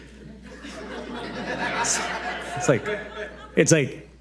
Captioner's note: audience laughing